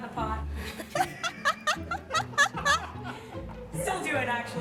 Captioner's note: laughing